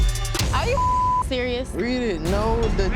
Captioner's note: beep